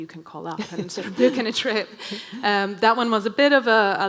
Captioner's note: laughing